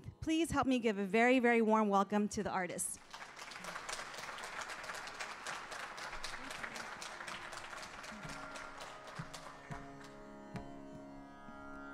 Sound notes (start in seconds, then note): 3.0 audience applauding; 8.5 languid sitar music